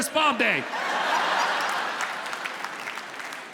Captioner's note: audience laughs